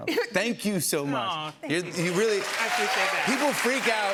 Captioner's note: cheers and applause